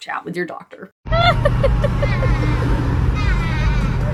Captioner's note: laughing